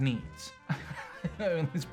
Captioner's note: Richard laughs